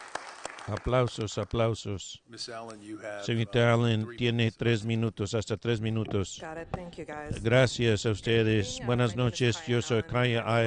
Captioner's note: applause